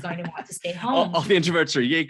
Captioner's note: laughs